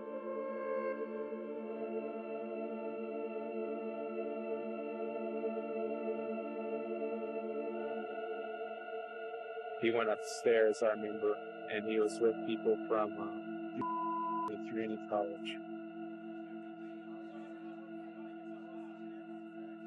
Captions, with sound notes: He went upstairs, I remember. And he was with people from (beep) Community College. (people chattering)